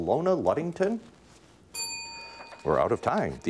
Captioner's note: bell rings